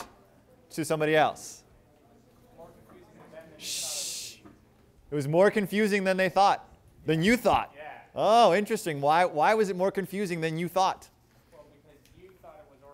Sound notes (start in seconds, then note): 3.6 shushing